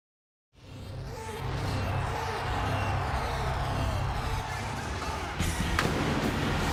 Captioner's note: upbeat music; crowd cheering; fireworks booming